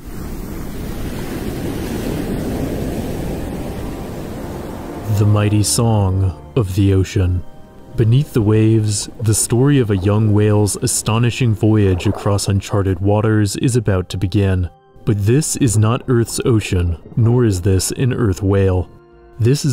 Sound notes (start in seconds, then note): 5.1 waves crashing